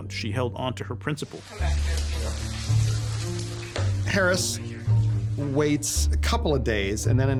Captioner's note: people talking in background